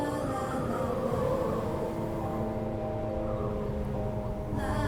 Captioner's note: wind blowing